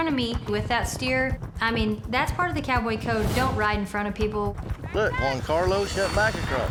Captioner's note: none